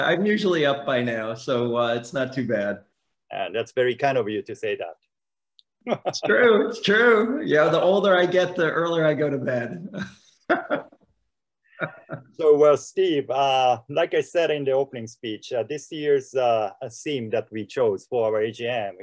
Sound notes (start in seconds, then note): 10.4 laughing